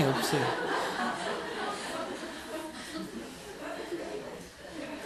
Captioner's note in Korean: 청중 웃음